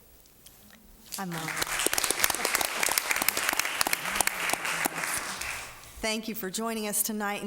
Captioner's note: applause